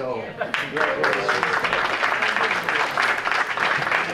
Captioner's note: clapping